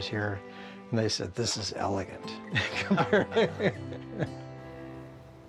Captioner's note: laughs